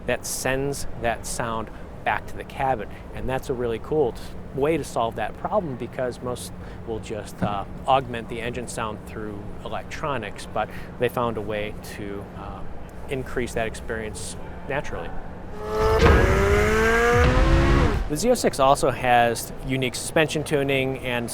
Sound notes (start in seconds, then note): 15.4 car engine revving